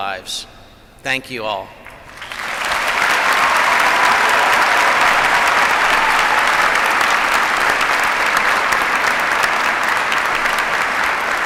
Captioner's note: applause